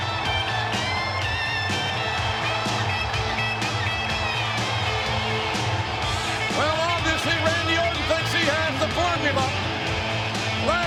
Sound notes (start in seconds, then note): 0.2 energetic rock music continues; 2.3 crowd cheering